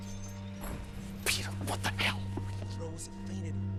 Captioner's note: whispering